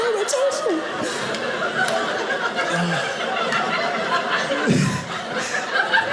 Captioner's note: audience laughing